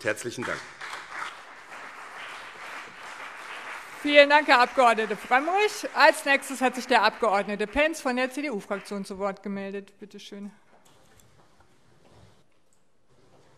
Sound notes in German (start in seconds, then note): 1.3 Beifall BÜNDNIS 90/DIE GRÜNEN und CDU